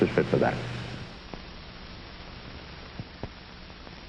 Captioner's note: hiss, pops, and clicks